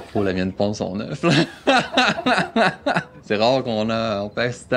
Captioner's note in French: rire